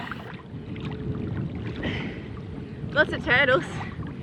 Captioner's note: gentle water splashes